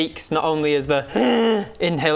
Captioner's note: hhhrrgh